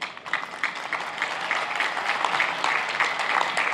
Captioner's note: applauding